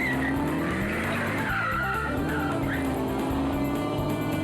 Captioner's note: car screeches